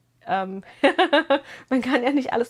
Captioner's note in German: gelächter